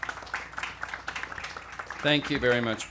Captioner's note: applause